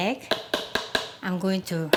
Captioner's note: cracking